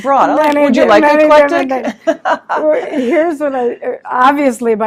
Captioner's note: laughing